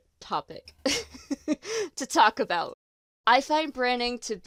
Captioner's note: delighted laugh